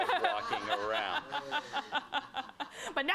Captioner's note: laughter